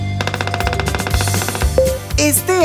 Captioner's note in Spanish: Sonido de pájaro carpintero